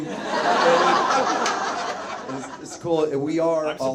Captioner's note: audience laughs